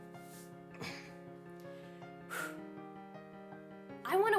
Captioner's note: clears throat